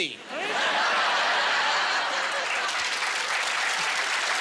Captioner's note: laughing